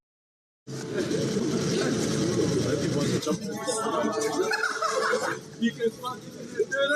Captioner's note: ambient sounds from an urban environment